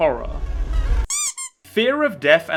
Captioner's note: squeak